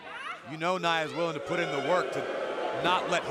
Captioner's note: crowd boos